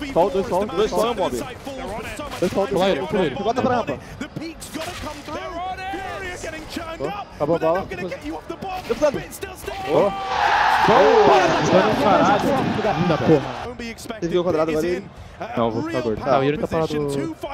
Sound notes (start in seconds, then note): 9.8 crowd screaming